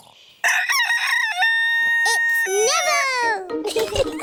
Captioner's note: neville crows; both giggling